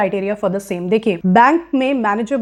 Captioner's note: speaking hindi